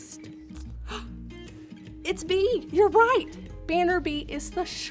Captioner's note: gasps